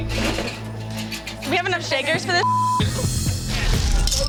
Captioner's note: beep